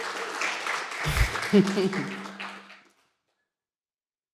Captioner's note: cheering, applause